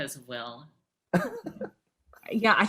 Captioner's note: laughing